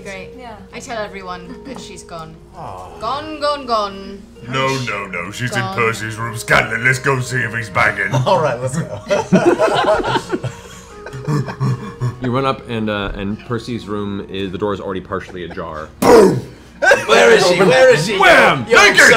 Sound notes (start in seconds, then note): 8.7 laughter; 16.4 boom; 18.6 wham